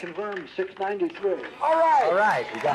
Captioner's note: crowd cheering